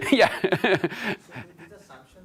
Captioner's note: laughs